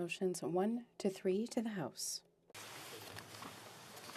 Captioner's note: speaking French